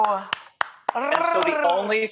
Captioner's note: clapping